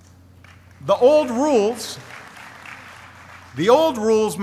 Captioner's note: applause